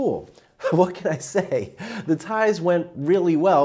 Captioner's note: chuckling